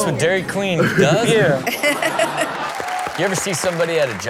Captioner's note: Chanel laughing